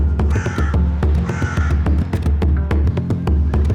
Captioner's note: raven croaking